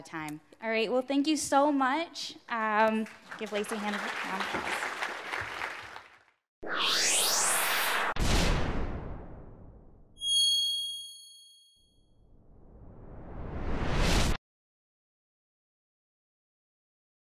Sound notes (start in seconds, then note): 3.0 audience applauding; 6.6 robotic sounds